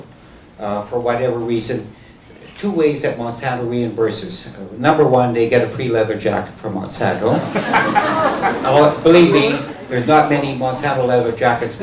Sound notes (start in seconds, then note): 7.3 laughter